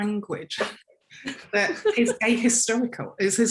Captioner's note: giggling